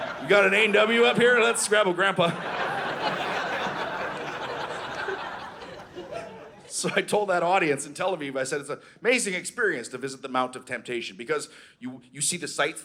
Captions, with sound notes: “You got an A&W up here? Let’s grab a Grandpa.” (Audience laughing) So I told that audience in Tel Aviv, I said, it's an amazing experience to visit the Mount of temptation because you see the sights